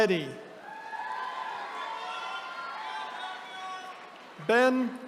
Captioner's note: attendees cheering